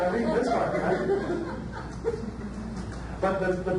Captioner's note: audience laughs